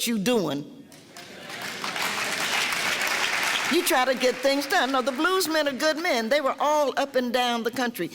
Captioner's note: clapping